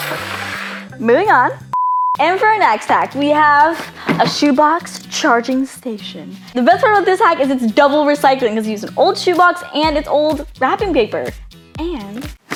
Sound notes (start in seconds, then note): 0.0 scraping; 1.7 beeping